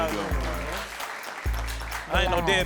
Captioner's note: audience applauding